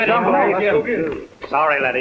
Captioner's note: angry murmuring